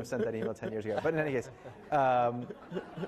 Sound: laughing

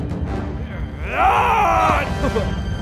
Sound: roar

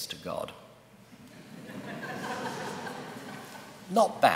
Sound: laughter

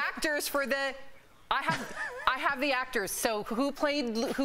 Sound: laughter

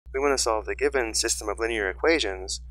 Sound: voiceover

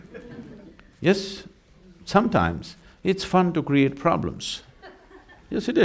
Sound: laughter

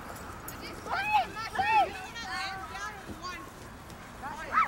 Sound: kids chattering

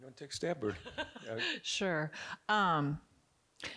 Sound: chuckles

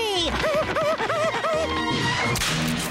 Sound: panting

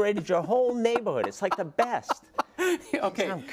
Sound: laugh

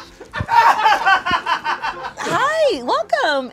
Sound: people offstage laugh

